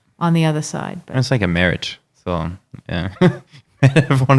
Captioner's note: laughing